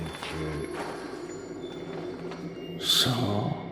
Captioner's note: creature rustling